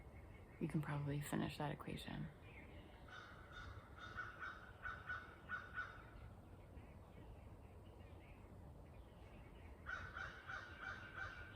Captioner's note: crow sounds